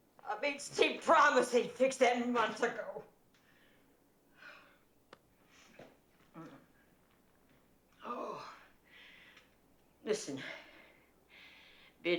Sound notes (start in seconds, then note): 8.0 groans